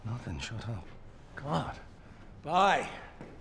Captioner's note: none